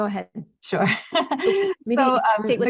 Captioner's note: chuckles